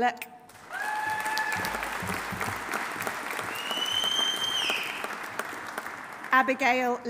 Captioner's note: audience applauding; audience cheering